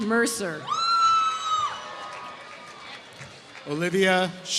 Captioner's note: applause